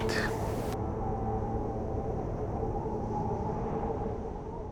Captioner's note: wind howling